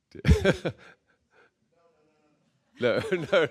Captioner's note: laughs